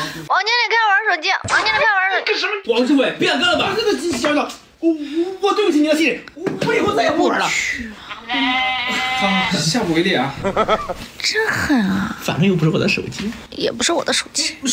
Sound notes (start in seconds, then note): 10.3 aha ha ha ha ha